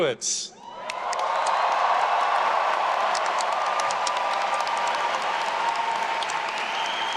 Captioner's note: attendees cheering; everyone applauding